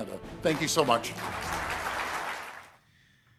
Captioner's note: audience applauding